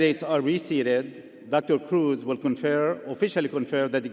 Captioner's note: none